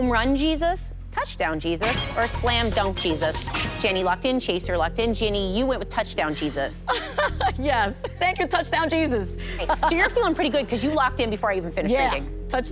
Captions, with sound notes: [ Chime ] [ Chime ] Jenny locked in. Chaser locked in. Jenny, you went with Touchdown Jesus. [ Laughs ] Yes. Thank you, Touchdown Jesus. So you're feeling pretty good 'cause you locked in before I even finished reading.